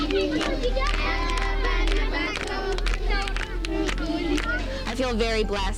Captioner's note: speaking in foreign language